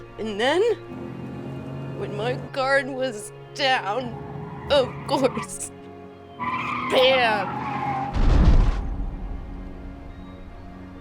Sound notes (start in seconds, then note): 5.4 tires screeching; 7.3 cars crashing